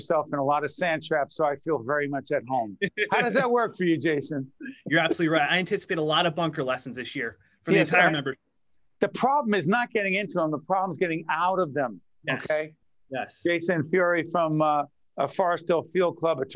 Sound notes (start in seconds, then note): 2.8 laughing